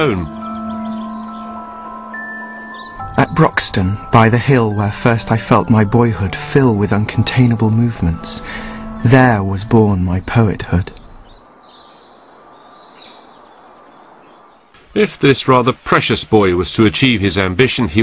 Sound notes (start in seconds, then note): 13.5 birds twitter; 14.9 Paxman voice again